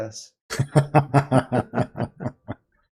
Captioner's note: laughter